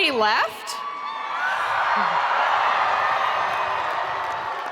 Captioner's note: spectators cheering